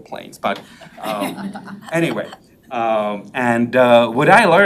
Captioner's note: member laughs